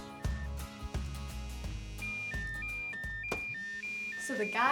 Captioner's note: phone beeping